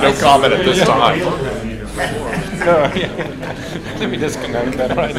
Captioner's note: laughter